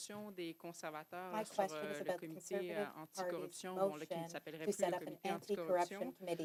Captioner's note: speaking French